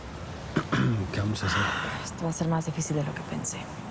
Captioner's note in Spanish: Carraspea